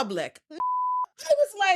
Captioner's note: beep